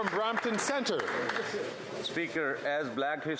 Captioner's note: some Applause